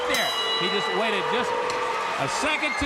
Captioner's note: bell ringing